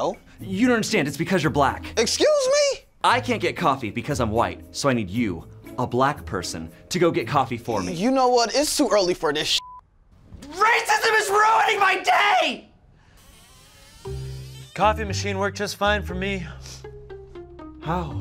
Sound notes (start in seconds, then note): 9.5 beep